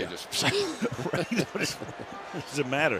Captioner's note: chuckles